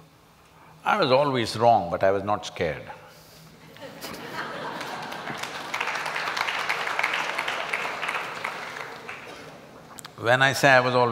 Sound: laughter

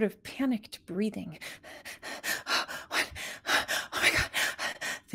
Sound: breathing heavily

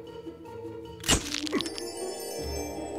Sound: camera shutter; ethereal music

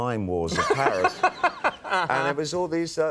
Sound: Conan laughing

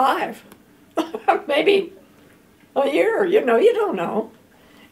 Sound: chuckles

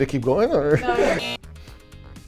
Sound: woman Speaking; buzzer

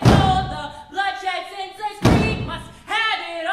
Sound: characters stomping

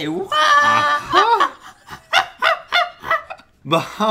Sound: monkey calls

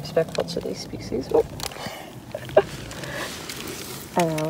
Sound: laughs

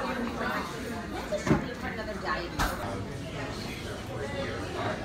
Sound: customer chatter

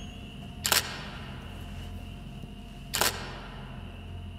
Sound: camera shuttering

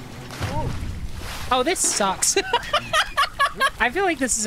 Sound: laughter

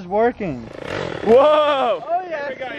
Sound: engine revving

